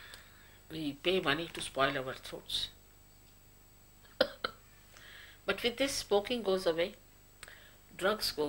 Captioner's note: shri mataji laughs